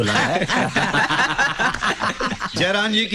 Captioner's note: Laughs